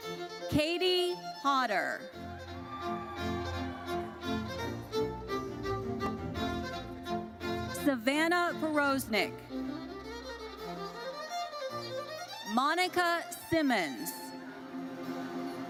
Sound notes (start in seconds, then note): 2.2 audience cheers